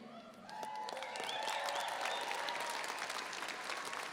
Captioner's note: everyone applauding